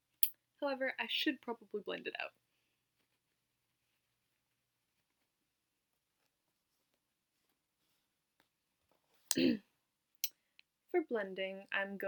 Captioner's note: clears throat